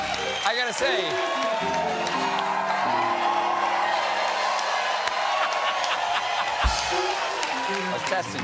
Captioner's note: applause; cheers